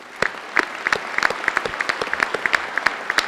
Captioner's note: applause